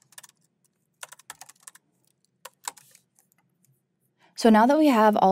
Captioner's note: keyboard clacking